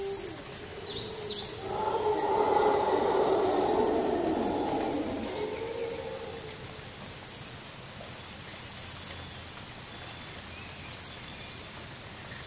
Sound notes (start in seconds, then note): 2.5 animal roaring; 6.4 light jungle ambience